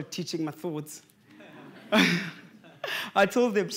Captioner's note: laughter